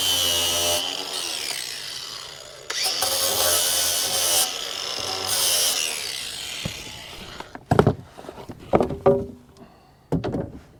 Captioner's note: grinding